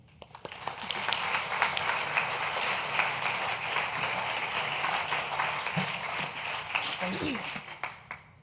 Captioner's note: applause